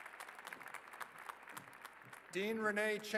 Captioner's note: applause